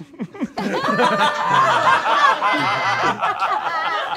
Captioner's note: all laughing